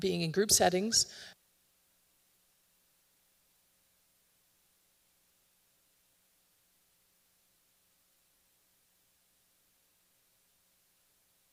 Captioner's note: audio cuts